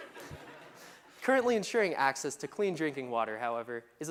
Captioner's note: laughter